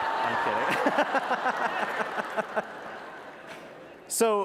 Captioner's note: laughter